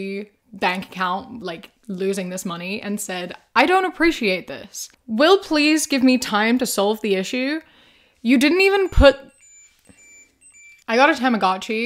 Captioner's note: beeping